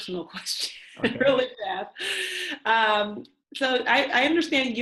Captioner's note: laughs